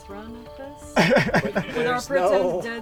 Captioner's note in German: nervöses Lachen